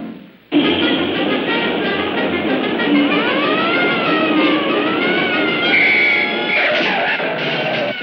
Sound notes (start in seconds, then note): 2.7 siren blaring; 5.2 blowing whistle